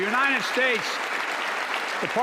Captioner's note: applause